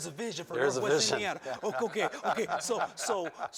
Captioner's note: laughter